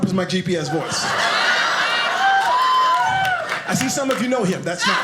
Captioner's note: audience laughing